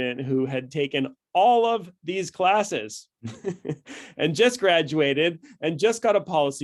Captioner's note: chuckles